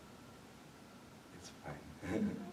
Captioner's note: laughs